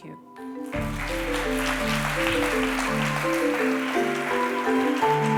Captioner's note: applause